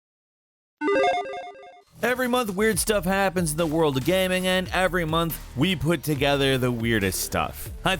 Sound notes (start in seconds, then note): 0.8 electronic beeping